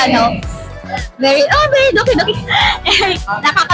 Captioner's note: laughs